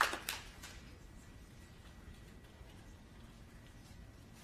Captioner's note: applause